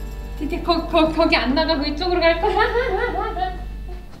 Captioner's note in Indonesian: tertawa